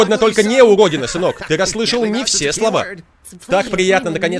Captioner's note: laughing